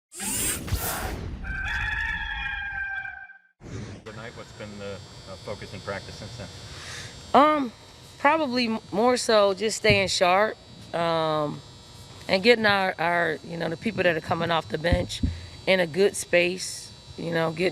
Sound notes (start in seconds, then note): 1.4 rooster crows